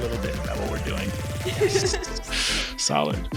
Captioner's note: laughs